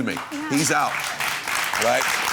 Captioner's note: applause